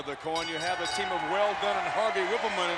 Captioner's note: bell ringing